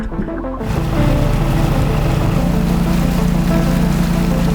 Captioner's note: motor boat whirring; water splashing